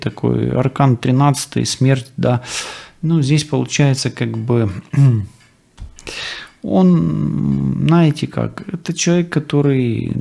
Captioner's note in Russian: откашливается